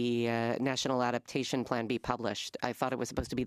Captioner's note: speaking French